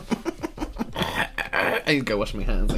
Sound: more Gagging

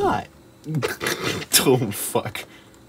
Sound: giggles

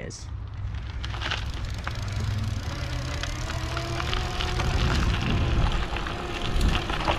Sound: gravel crunching; bike motor whirring

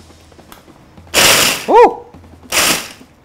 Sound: whirring

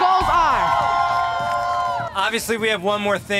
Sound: students cheering

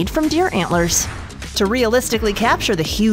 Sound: air whooshing

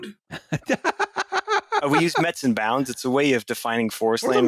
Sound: laughs

